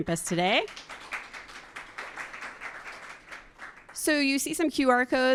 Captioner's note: attendees applauding